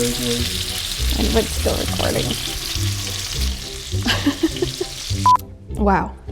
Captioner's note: laughs